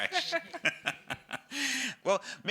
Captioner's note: laugh